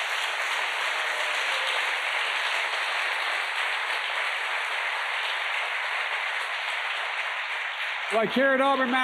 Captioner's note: applause